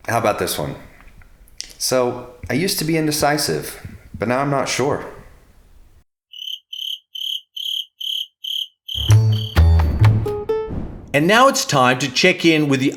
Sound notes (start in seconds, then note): 6.3 crickets chirping